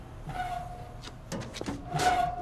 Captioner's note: mailbox door squeaking